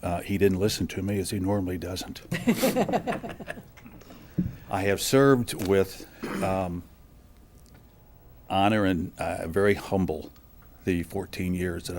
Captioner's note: laughter